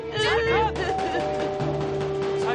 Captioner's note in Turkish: Bağırışmalar; Kapı zili sesi